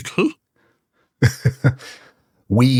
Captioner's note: laughs